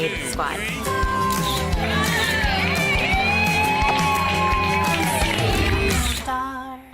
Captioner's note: upbeat music; cheerleaders cheering